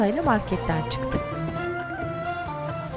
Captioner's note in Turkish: Kapı açılma sesi